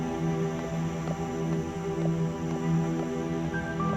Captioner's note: feet shuffling; suspenseful music